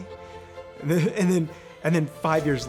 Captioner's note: chuckles